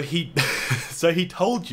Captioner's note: laughing